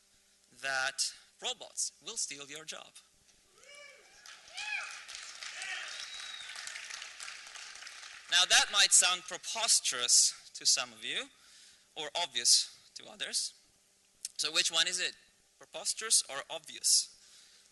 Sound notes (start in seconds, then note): 4.1 applause